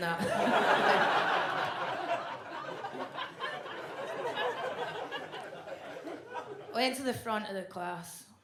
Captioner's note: audience laughs